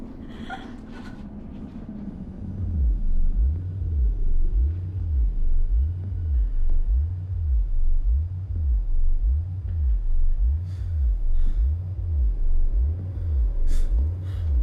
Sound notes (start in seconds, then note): 0.2 Mattie whimpers; 2.8 computers pulsing ominously; 2.8 eerie music